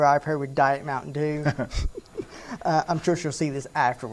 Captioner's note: both laughing